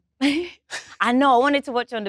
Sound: chuckles

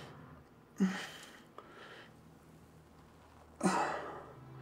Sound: Josiah groaning

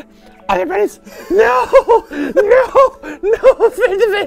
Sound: weird gurgly voice; laughing; weird gurgly voice; gurgling

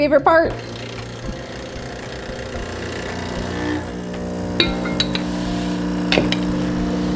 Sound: coffee machine brewing noise

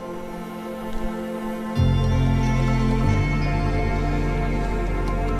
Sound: footsteps crunching

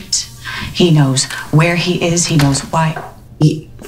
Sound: door shuts

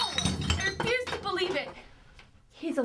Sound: bottle crash

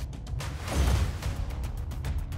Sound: thump; whoosh

